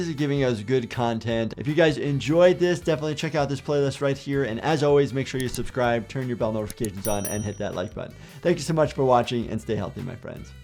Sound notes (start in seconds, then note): 6.6 button clicking; 6.6 bell ringing